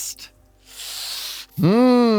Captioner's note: sucks in air